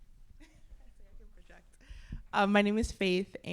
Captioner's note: laughs